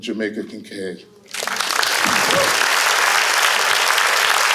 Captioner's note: applause